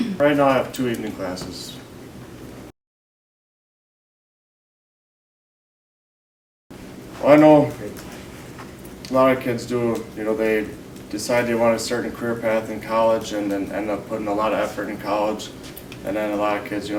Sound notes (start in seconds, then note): 2.6 silence